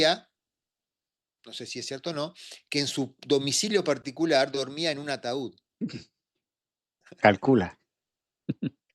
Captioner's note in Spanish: carraspeo